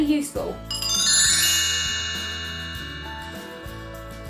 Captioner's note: bell transition sound effect